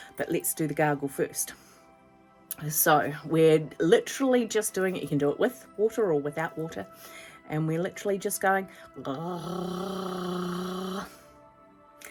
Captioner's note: gargling sounds